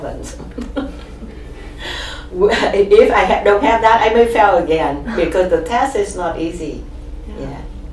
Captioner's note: laughs